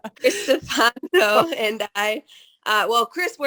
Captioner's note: laughs